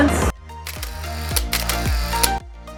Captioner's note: camera clicks